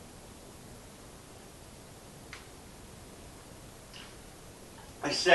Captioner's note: gulp